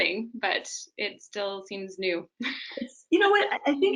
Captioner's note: chuckles